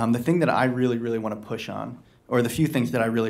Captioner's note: none